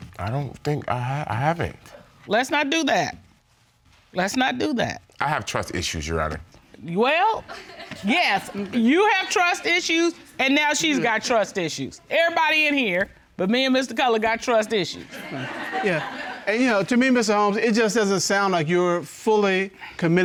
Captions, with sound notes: -I don't think-- I haven't. -Let's not do that. Let's not do that. I have trust issues, Your Honor. -Well, yes. -[audience chuckles] You have trust issues, and now she's got trust issues. Everybody in here, but me and Mr. Cutler, got trust issues. -Yeah. -[audience laughing] And, you know, to me, Mr. Holmes, it just doesn't sound like you're fully committed